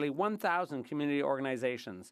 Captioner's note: speaking French